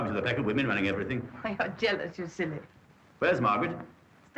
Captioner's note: chuckles